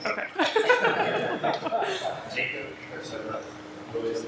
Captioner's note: laughter